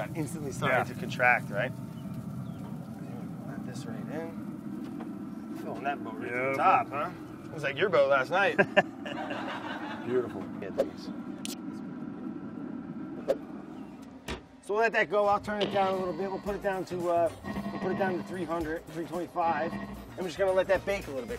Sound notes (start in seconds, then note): 8.4 laughs; 8.4 recorded laughter plays